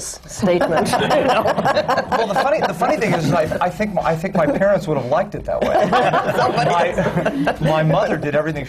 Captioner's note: laughter; laughter